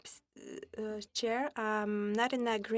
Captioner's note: speaking French